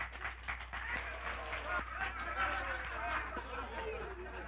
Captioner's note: crowd applauding; men laughing